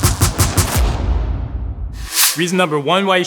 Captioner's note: swooshing sound